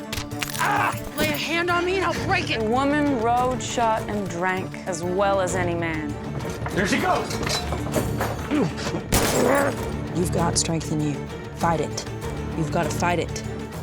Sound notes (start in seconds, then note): 0.4 bones crunch, thomas yells; 8.5 struggling; 9.1 gun shot